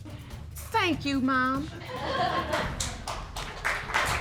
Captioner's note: audience applaud